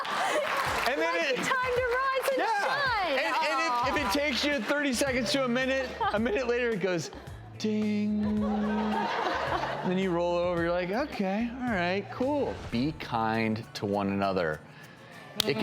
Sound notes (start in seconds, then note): 0.0 audience applauds; 8.1 audience laughs